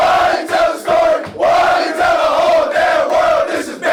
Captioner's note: cheering